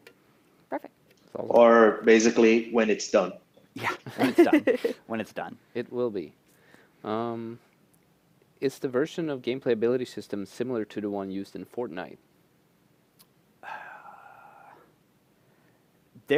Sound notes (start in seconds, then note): 3.9 laughter